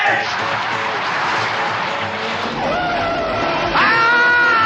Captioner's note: car racing